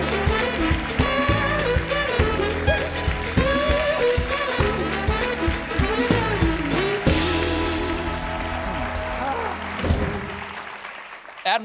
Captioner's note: applause